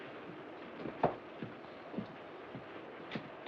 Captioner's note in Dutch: klikt met hakken